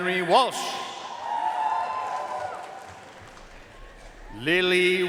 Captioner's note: audience cheering and applauding